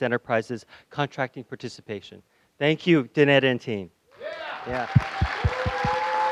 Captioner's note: applause